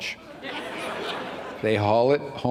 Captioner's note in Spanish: risas